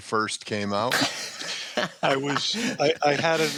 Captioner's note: laughter